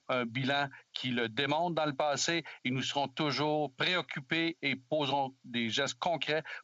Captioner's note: speaking French